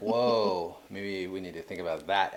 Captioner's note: laughing